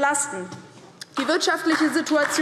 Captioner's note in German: Beifall DIE LINKE